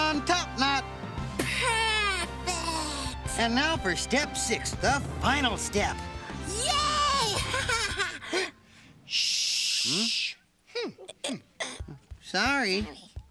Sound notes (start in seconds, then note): 7.2 laughs